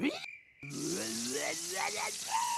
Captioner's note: snarling